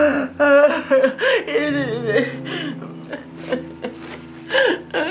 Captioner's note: murmuring